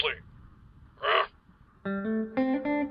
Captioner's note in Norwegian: grynt